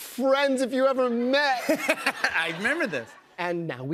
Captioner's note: laughter